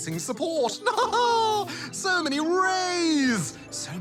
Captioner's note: laughs